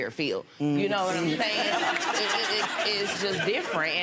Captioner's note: audience laughs